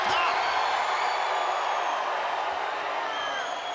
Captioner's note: crowd jeering